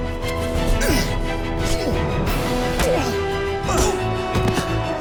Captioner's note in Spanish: Ruidos de la lucha